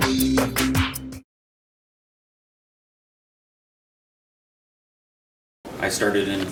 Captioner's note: silence